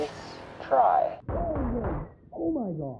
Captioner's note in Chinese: 低沉敲擊聲